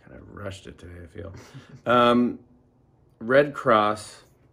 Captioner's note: laughing